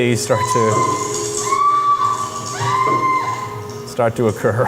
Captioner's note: woman shrieking